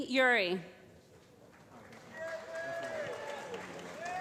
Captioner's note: applause